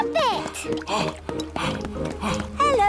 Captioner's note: panting